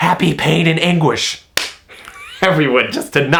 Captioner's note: laughing